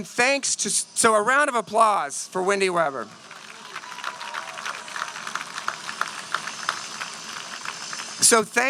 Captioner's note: applause